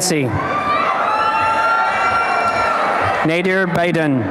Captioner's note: applause and cheering